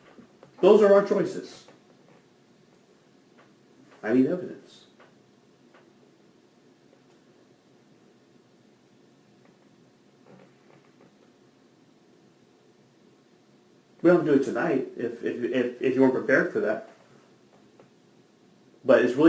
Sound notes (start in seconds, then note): 5.6 awkward pause